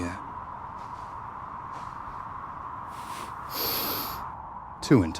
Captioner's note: wind howling